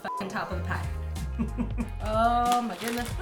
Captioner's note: chuckles